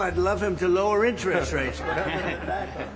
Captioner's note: laughter